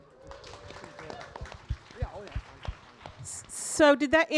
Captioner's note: audience applauding